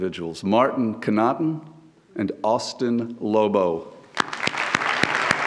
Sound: audience applauds; claps

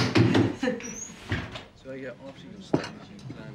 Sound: mother laughs

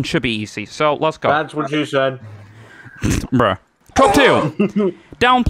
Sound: snicker

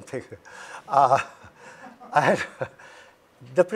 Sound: chuckles

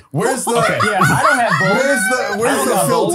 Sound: laughs

